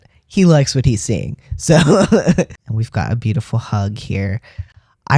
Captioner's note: laugh